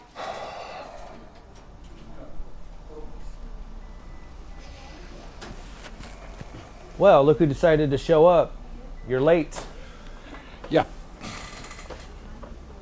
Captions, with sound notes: (Jim sighs) (people chattering) - Well, look who decided to show up. You're late. - Yeah.